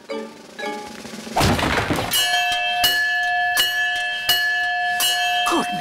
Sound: thud; bell rings continuously

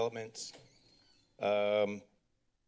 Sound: door opens

